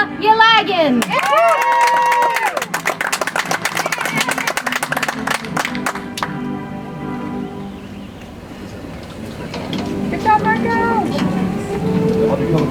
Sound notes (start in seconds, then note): 4.7 audience applauds; 10.1 soft music